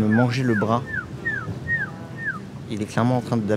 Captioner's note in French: sifflement